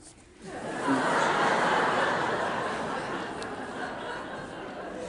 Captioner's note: audience laughing